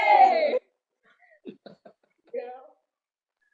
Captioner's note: laughs